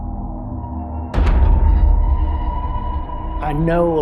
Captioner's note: door slamming